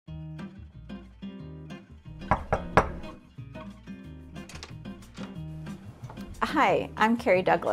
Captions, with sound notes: (gentle electronic music) (hand knocks on door) (door opens) - Hi, I'm Kerrie Douglas,